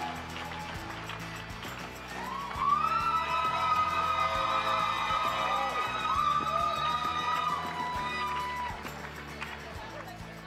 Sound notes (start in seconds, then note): 3.5 crowd cheering